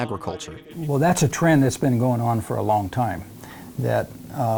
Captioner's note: auctioneering